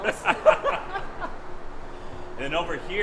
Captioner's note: laughter